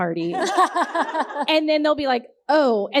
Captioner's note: all laughing